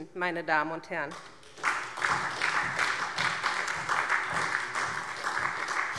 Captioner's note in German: Beifall SPD